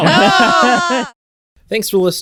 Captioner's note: laughs